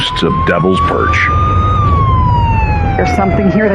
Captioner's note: sirirenen waiaililing